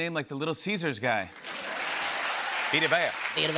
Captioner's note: cheers and applause